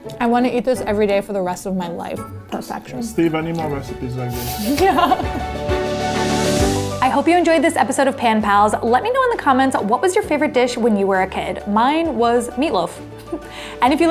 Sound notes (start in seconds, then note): 4.1 laughs; 6.3 upbeat music